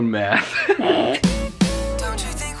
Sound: chuckling

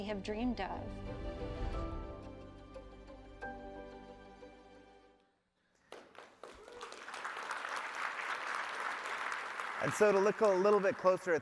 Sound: applause

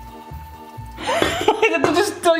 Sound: curious music; laughing

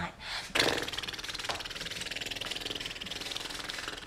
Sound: blowing raspberries

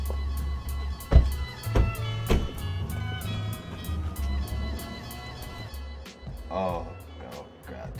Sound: door slamming

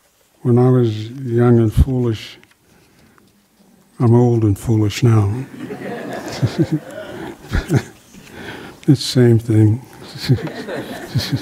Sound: laughter

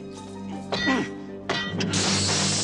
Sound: hitting; sword clanging

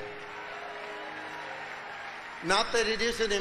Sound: congregation cheering

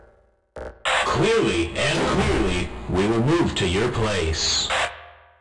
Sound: HECU Marine on radio

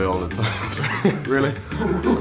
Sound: laughs

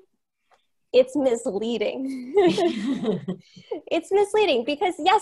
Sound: laughs

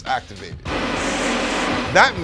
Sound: hand driers whoosh

